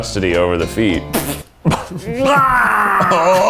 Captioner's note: sputters